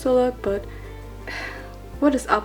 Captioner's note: sighs